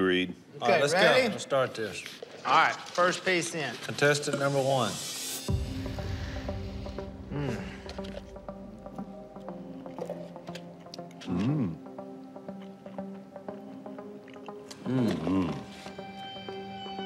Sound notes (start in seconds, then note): 5.5 inhales deeply; 8.3 dramatic music